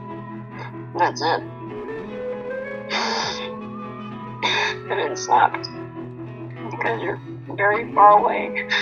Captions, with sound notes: And that's it. (sniffing) And it sucks. 'Cause you're very far away.